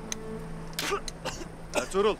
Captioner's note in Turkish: Öksürme sesi